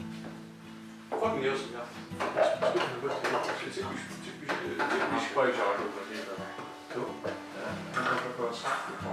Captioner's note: chatter; salty chatter